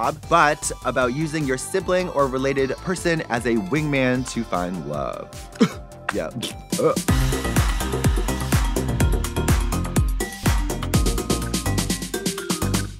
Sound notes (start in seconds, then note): 5.5 Trixie scoffs; 7.5 lively upbeat dance music